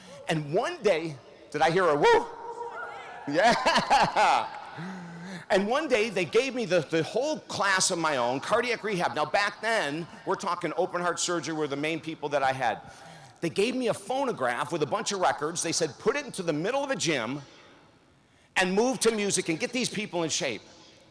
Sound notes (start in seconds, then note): 2.4 students in audience cheer; 2.6 laughs